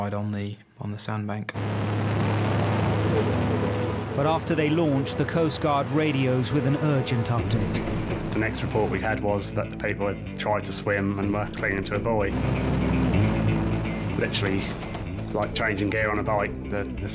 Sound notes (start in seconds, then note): 1.6 motor roars; 12.9 dramatic music